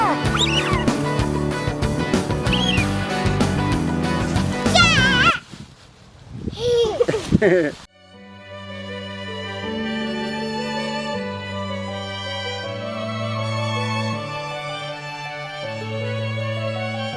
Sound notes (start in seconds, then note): 0.0 rock music; 7.4 they laugh; 9.4 classical music